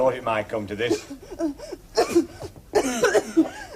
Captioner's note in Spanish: Toses